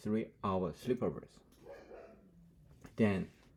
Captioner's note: Gurumi, my dog, barking